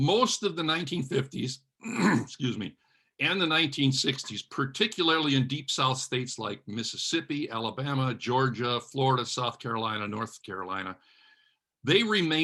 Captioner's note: clears throat